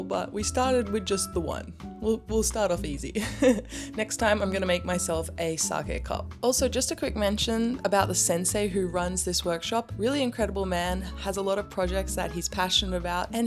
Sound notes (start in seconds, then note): 3.2 laughs